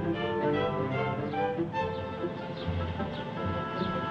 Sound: birds chirping

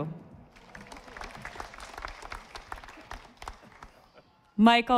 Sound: audience applauding

